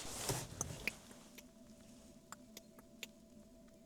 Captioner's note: clicking noises